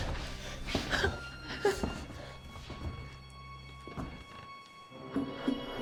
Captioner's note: suspenseful music; Claire whimpering